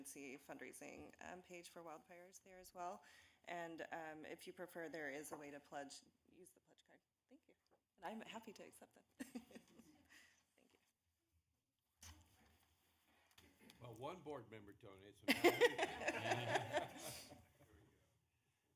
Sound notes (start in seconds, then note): 15.3 laughing